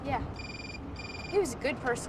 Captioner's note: cell phone ringing